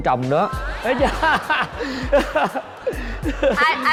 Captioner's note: laughing